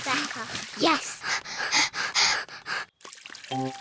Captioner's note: both panting